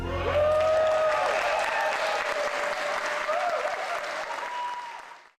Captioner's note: audience clapping and cheering